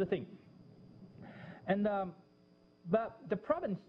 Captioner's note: pause